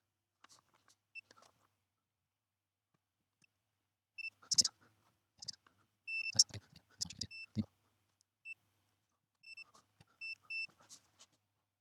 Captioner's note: beeping